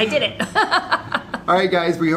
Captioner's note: laughing